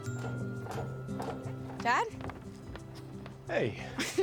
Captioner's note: footsteps approaching